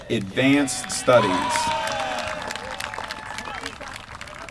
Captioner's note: applause